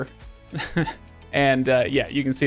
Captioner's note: chuckles